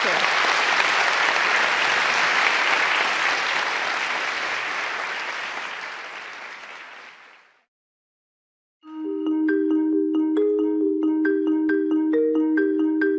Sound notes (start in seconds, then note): 1.5 audience clapping; 8.8 ambient music